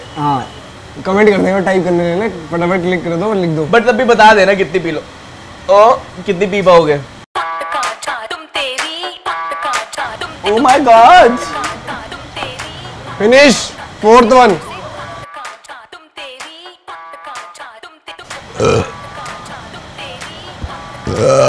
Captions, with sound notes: Yes, they just like to criticise everything But still do let us know how many glasses can you finish? Oh My God! Finished! Four glasses! *burps*